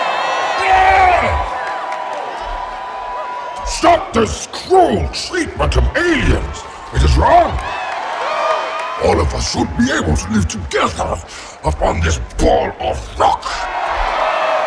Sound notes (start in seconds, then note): 8.0 crowd cheering